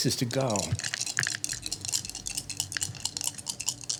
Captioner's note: dice rattling